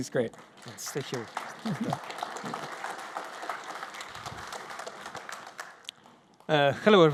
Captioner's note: applause